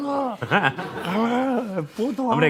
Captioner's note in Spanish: Risas